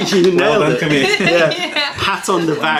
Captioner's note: laughter